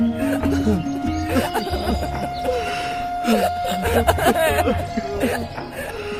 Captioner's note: people crying